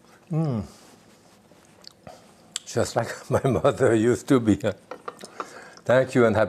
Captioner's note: chuckles